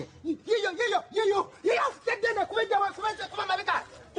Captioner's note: demonstrating the yelling he wants